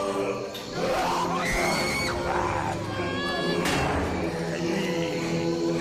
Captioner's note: roars; screams; snarls